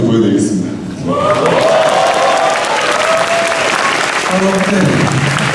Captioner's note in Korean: 일동 환호